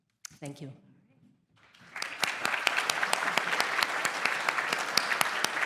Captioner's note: applause